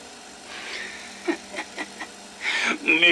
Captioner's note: laughs